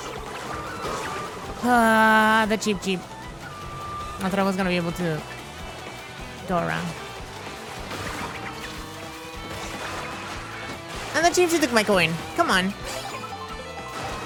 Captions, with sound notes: [ GROANS ] The Cheep Cheep... I thought I was gonna be able to go around. And the Cheep Cheep took my coin! Come on...